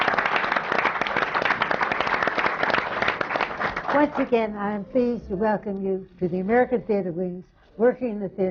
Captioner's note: applause